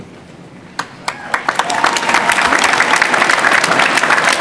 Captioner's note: applause